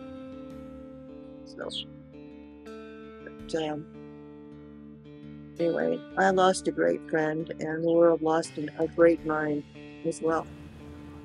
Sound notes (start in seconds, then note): 1.5 speaks faintly; 11.0 light music